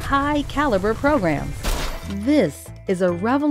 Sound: objects crashing

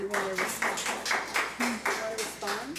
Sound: public applauding

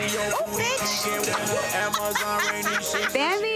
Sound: Rasheeda laughing

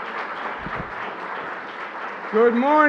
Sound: applause

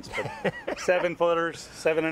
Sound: laughs

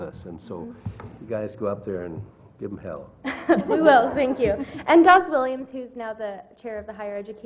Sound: laugh

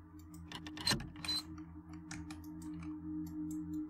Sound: creaks

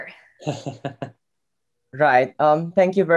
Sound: laughing

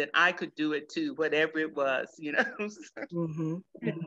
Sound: laughs

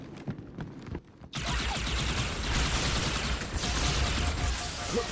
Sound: laser guns blasting

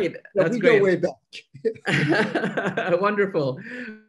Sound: laughing

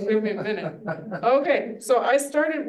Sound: student laughs

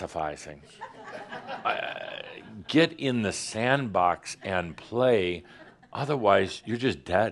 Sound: some giggles

